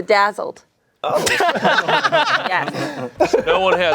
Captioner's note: everyone laughing